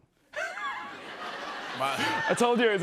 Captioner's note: laughter